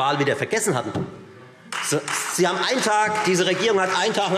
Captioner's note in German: Beifall Freie Demokraten und vereinzelt SPD